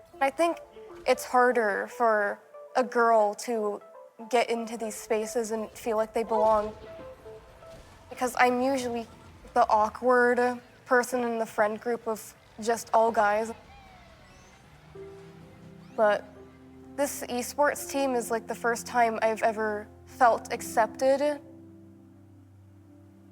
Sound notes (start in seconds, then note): 13.9 gentle piano music; 13.9 video game beeping